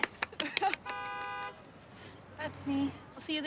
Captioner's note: claps; car horn blares